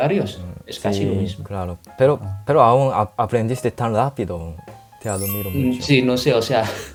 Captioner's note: Spanish